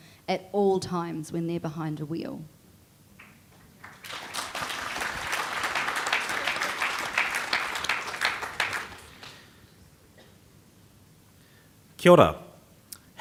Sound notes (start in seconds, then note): 3.6 audience applauding; 11.8 speaks foreign language